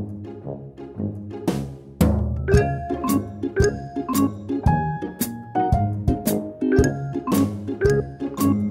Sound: none

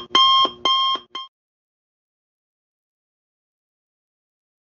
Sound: silent

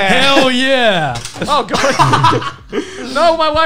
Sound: laughing

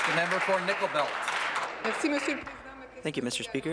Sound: applause

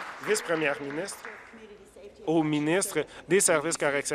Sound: applause

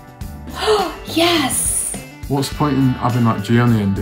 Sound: sighs

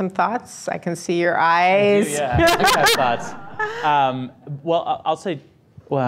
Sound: laughing

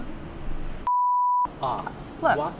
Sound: beeping

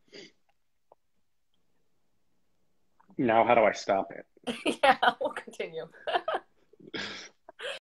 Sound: laughs

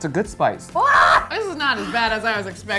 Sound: screams

